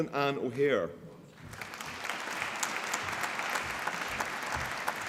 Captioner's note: applause